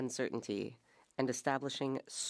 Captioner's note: speaking French